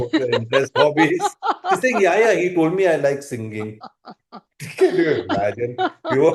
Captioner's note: laughter